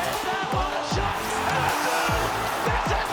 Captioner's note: crowd cheers